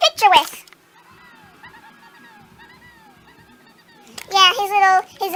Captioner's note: Pillsbury doughboy faint giggling